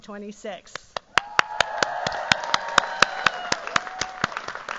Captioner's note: cheers, applause